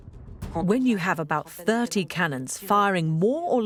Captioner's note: voiceover